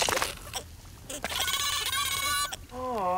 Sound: screeching

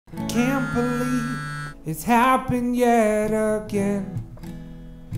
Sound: vibrating phone

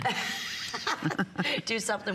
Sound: laughter

